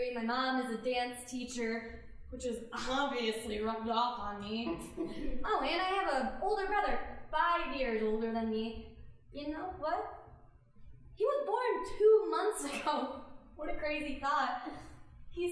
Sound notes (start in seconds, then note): 4.7 chuckling; 13.0 laughing